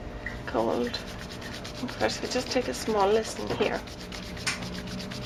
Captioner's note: rubbing Hands Together